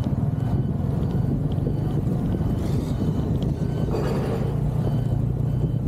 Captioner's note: high-pitched beeping